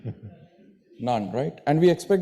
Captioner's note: laughs